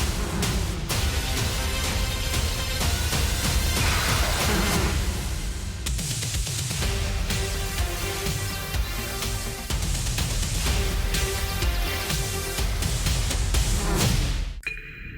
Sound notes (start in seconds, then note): 0.0 buzzing